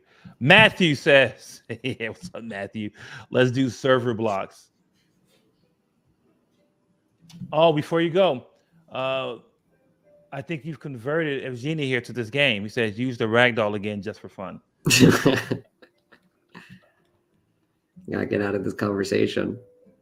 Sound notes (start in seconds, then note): 1.6 chuckles; 14.9 laughs